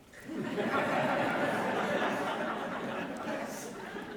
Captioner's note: audience laughs